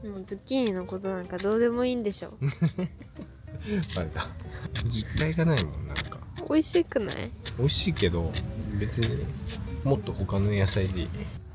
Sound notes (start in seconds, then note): 4.3 laughs